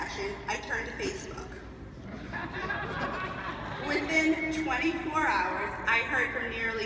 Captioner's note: laughs